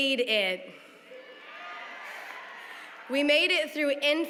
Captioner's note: cheering